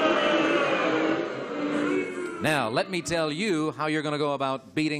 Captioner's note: booing